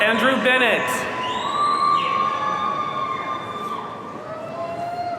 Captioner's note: audience cheering